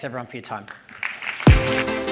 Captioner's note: applause